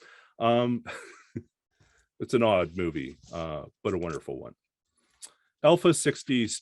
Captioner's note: chuckles